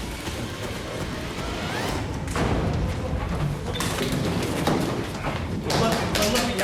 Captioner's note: suspenseful music; door slam